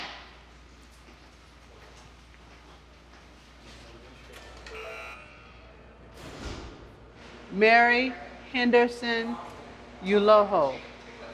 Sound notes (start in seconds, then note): 4.7 buzzer sounds